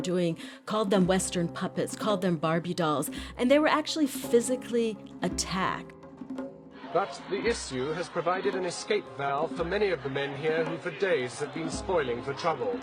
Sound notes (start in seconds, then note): 5.3 soundbite of archived recording